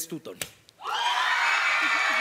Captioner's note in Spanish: Gritos